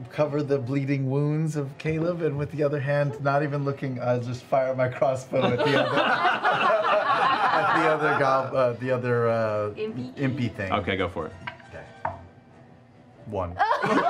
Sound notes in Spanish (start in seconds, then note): 5.4 risas